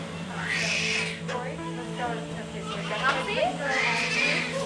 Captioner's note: baby crying